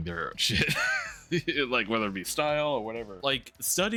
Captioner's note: laughing